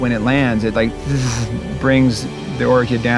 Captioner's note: imitates buzzing